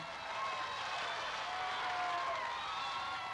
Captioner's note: crowd cheering